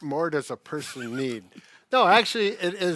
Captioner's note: laughs